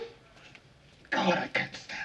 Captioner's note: moans